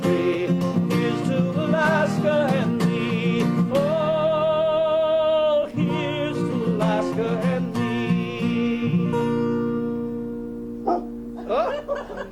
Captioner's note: dark barks approval